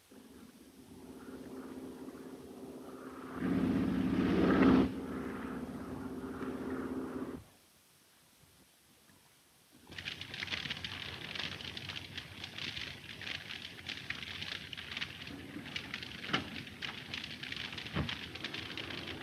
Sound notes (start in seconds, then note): 0.3 Phantom buzzing; 10.3 fire crackling